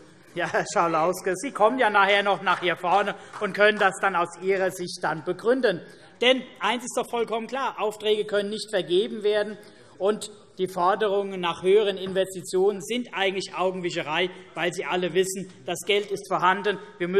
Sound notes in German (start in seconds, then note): 5.3 Beifall